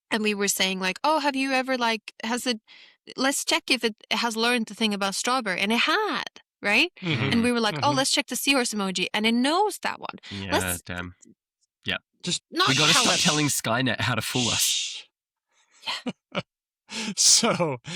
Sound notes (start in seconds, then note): 14.2 shushes; 16.1 whispers